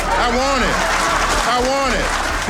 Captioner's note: crowd cheering